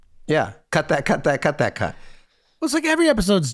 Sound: none

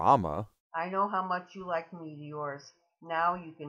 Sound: voiceover

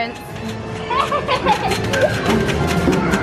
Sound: laughter

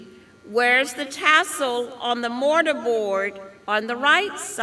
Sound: none

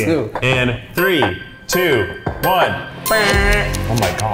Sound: mimics buzzer

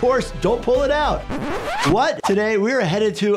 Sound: record scratch

